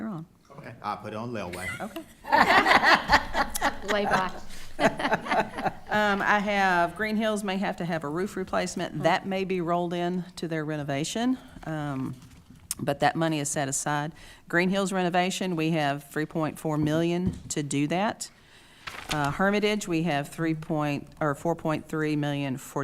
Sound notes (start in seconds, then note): 1.5 attendees laughing